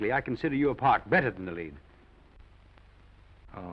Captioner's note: none